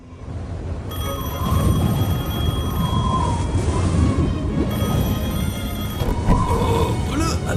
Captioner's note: ring